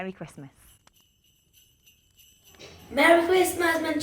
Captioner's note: bells chiming